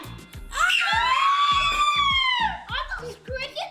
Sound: screaming

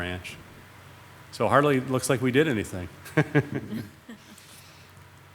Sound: chuckles

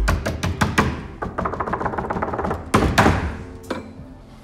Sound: knocking

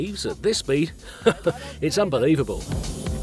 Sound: translator laughs

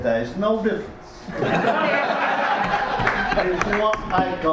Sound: audience laughs

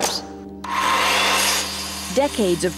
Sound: buzzing

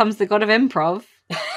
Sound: laughs

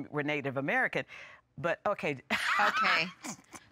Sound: laughs

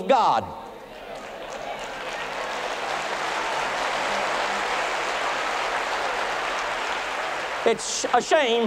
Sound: thunderous applause

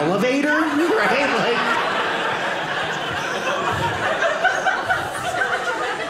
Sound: audience laughing

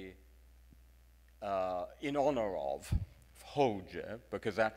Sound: speaks in foreign language

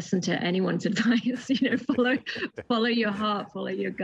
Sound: both laughing

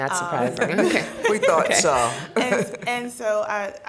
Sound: laughing

